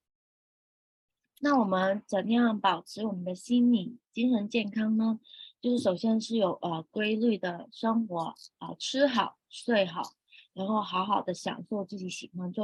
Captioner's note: speaking chinese